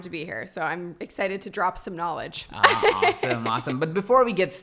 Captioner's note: laughs